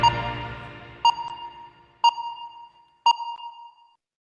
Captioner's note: louder beeping